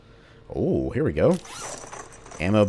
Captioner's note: ammo clattering